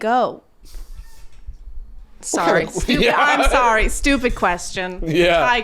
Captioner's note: laughing